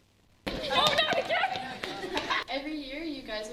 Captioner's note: group chatter